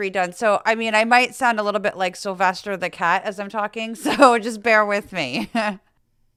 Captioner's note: laugh